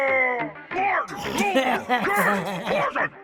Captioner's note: laughs